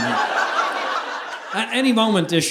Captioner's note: audience laughing